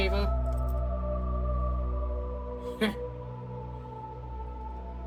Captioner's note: scoffs